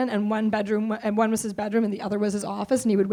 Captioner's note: none